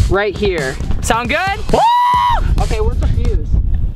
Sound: screaming

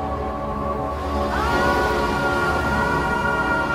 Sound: yells

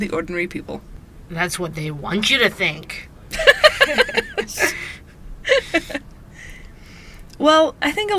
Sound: both laugh

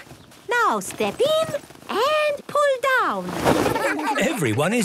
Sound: laughter

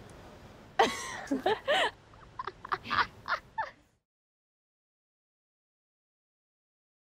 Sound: laughs

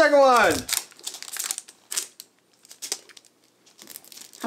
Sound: crinkles

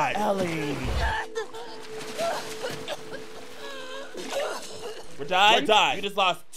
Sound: Abby gasping and coughing; Ellie grunting

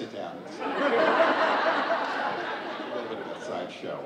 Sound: audience laughing

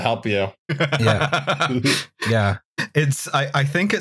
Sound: laughs, reveling in discomfort

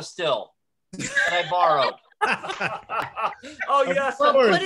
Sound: laughter

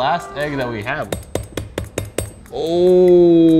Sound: knife thudding

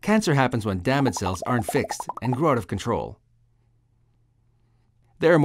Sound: sound of bubbles popping to create cell

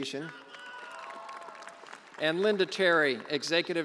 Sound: attendee cheering and applauding

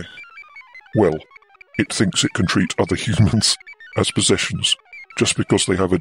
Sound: laughs

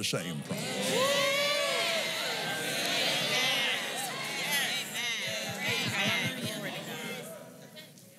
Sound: cheering

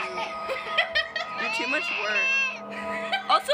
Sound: laughing

